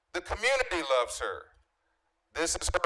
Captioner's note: none